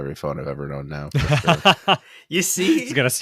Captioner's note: laughing